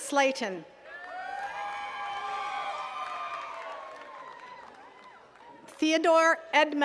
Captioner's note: attendees cheering and clapping